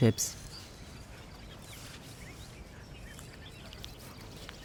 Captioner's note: birds chirping